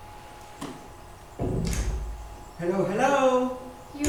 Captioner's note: door opens